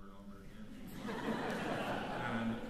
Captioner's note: laughter